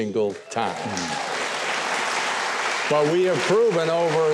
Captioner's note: audience applauds